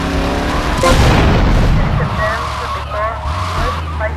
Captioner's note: sirens